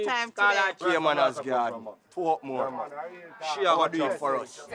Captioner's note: mixed chattering